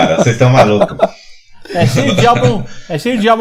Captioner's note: laughs